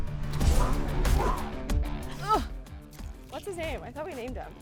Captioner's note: arrow whooshing